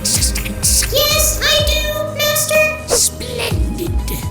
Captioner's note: monotone